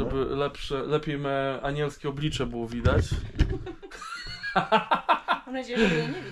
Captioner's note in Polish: śmiech